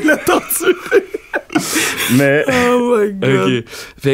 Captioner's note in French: rires